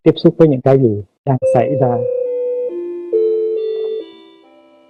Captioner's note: clock chiming